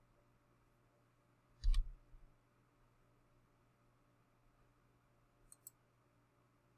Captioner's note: click